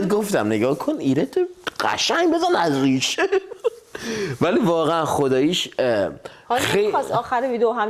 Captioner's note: laughs